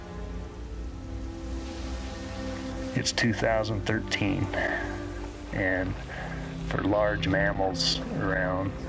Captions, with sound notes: It's 2013 doge *pant* and... *small pant* for large animals mmround